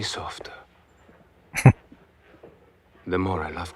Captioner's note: chuckling